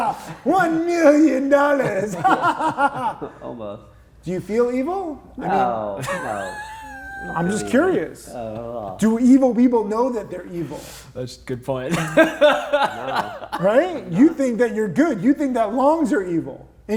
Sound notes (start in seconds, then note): 2.1 everybody laughing; 6.0 chuckles; 11.8 laughs